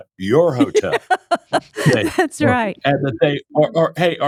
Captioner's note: laughing